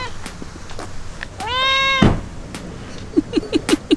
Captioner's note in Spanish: gato maúlla; gato maúlla; ríe